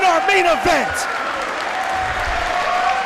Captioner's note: applause